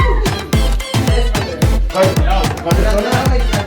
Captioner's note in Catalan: riures